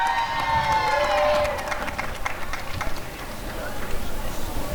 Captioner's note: applause and cheering